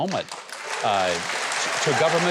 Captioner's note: audience applauds